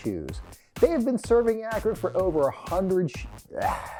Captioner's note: upbeat music; sighs